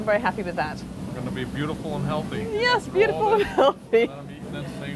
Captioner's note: laughs